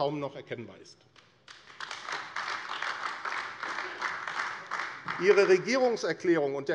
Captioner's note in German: Beifall AfD